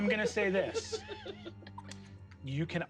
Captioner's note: giggle